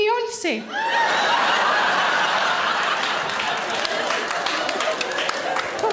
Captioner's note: loud laughter and applause